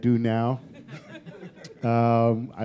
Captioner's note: laughter